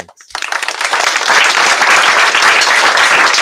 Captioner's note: applause